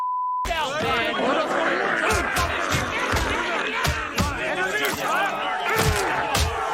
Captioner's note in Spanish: criatura gruñendo; pisando fuerte